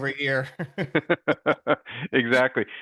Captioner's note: laughing